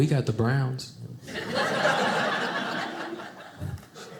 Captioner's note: audience laughing